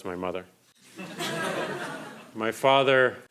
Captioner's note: crowd laughing